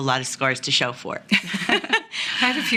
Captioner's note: women laugh